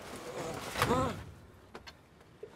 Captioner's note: traffic warden groans